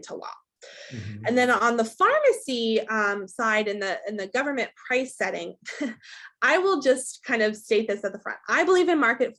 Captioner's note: laughs